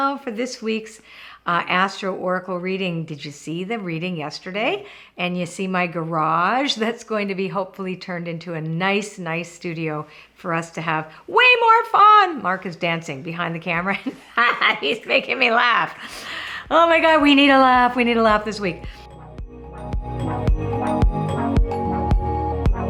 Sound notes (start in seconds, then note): 14.0 laughing; 20.0 upbeat music